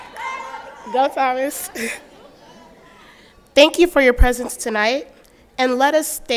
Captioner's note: laughter